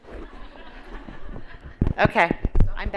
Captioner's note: laughter